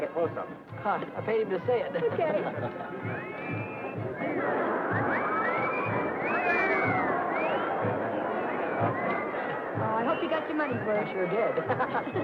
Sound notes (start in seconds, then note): 3.5 crowd whistling